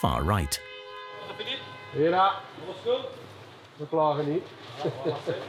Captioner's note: French spoken audio